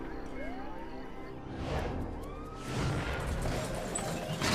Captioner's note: sirens wailing